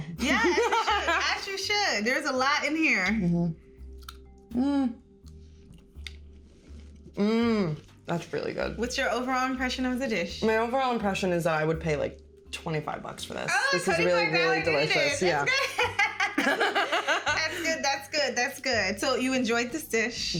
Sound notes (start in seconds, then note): 15.4 both laughing